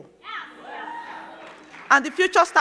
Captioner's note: crowd cheers